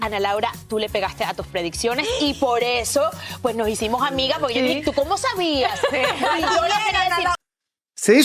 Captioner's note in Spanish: risas